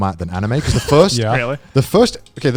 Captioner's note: laughing